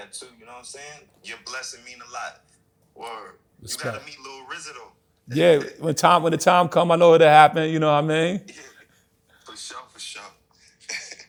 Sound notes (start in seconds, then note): 8.8 on phone